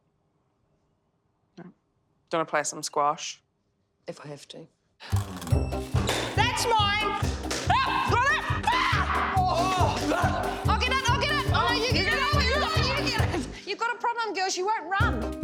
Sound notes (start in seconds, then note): 7.8 screaming loudly